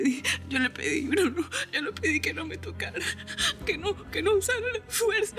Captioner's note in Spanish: Sollozos